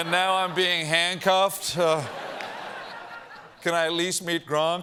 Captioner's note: laughter